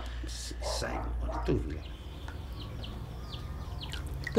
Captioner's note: background Foreign Language